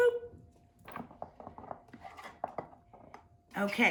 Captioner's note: spoon clattering